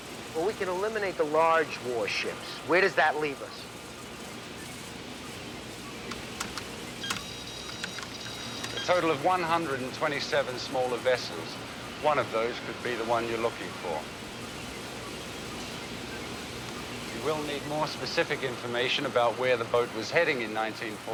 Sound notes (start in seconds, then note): 6.1 keys clicking